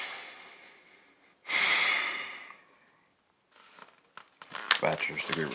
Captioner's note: Max sighing